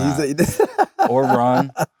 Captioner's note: Michael laughs